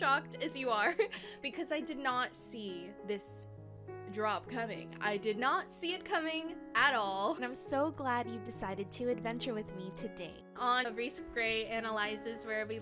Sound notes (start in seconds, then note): 0.9 giggle